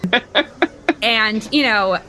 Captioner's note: laughter